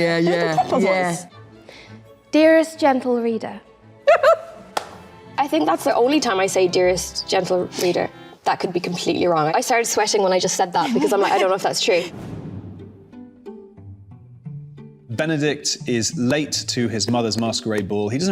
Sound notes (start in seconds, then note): 4.0 Queen giggling; 13.3 light music